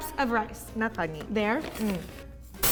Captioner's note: speaking in Japanese